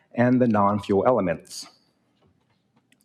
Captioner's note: none